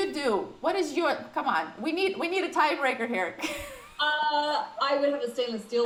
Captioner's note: laughs